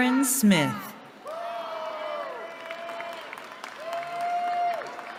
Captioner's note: cheering